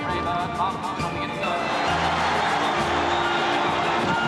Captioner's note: kerumunan bersorak